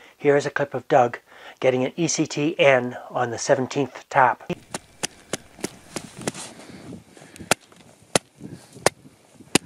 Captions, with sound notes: Here's a clip of Doug getting an ECTN on the 17th tap. (hand tapping)